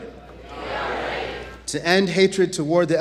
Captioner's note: audience chants "We are ready"